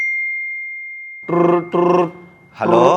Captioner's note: fake phone ringing